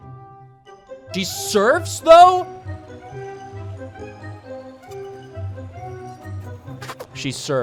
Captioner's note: balloon sounds